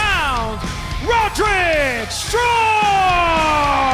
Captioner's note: crowd cheering